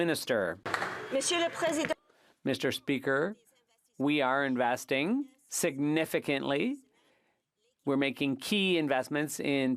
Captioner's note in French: applaudissements